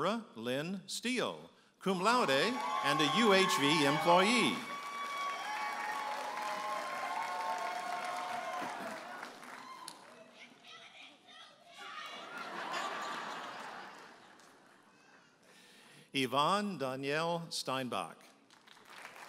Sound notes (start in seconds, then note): 4.5 audience applauding and cheering; 12.1 audience laughing